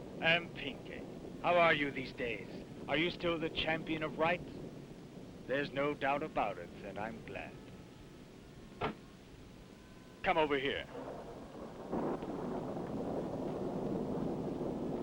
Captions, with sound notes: And Pinacate, how are you these days? Are you still the champion of right? There's no doubt about it that I'm glad. Come over here. (thunder rumbling)